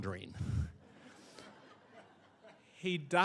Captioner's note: audience laughing